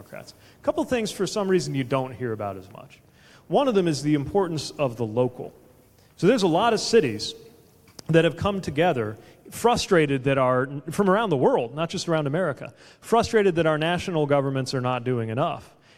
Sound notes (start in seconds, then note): none